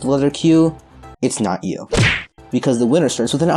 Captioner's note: whap* SFX